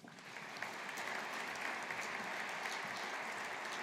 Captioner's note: audience applauding